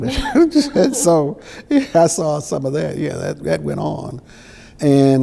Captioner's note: chuckles